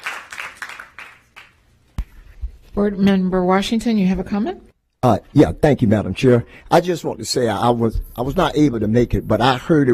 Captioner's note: applause